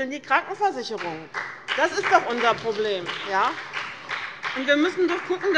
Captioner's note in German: Beifall bei dem BÜNDNIS 90/DIE GRÜNEN und der CDU